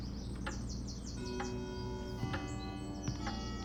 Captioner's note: clock chimes